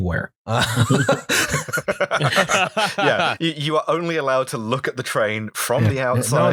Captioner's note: laughter